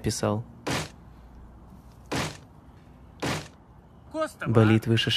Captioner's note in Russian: звуки ударов